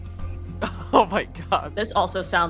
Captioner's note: laughing